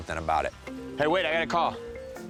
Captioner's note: phone ringing